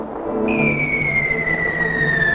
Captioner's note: whistling